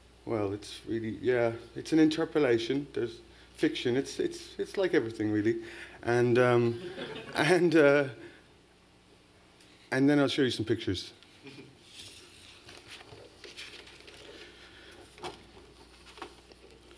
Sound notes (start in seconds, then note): 6.7 laughter